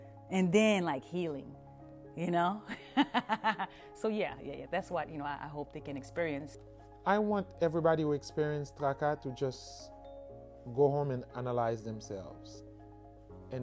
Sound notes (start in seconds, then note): 2.8 laughs